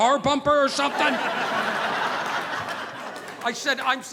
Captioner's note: audience laughing